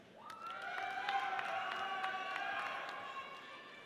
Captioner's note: audience cheers